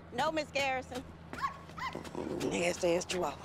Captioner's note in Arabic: نباح الكلب